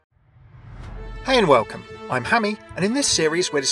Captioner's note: voiceover